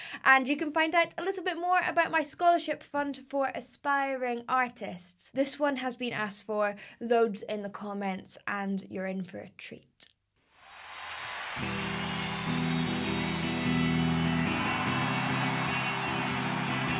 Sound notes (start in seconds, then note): 10.6 audience cheering and screaming; 11.6 guitar playing